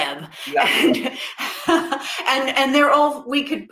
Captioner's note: chuckles